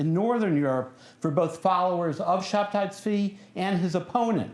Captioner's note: non-english speech